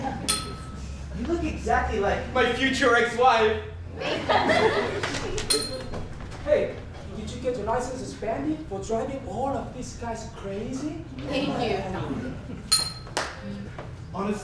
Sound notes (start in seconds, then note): 0.2 ding; 3.8 audience laughs; 5.5 ding; 12.7 ding